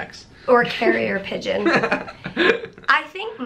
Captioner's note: laughs